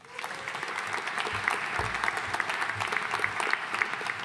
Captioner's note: audience applauding